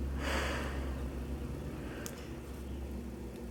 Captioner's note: sighing